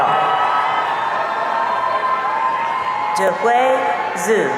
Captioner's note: audience cheering